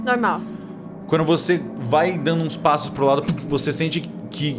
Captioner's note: thump